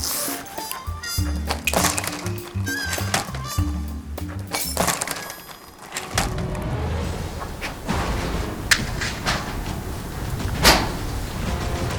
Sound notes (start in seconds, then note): 7.5 rustle